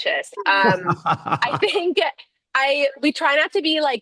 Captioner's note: laughs